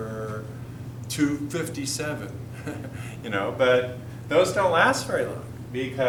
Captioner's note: chuckle